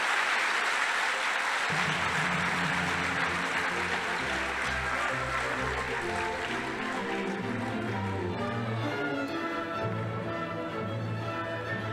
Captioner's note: applause